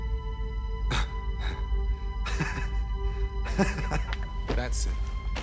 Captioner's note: Martin laughing